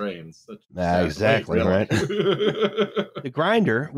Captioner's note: laughs